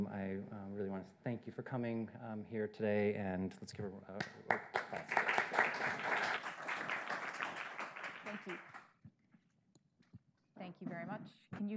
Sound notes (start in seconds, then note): 4.2 audience clapping